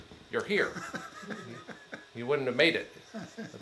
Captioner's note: attendee laughs